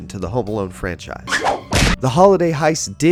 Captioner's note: thud